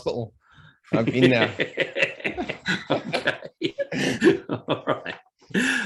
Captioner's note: both laugh